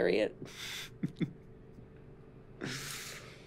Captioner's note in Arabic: ضحك